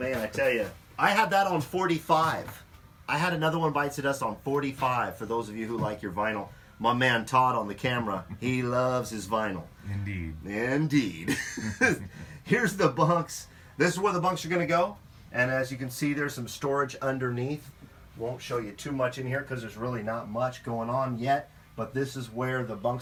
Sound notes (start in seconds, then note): 11.2 laughing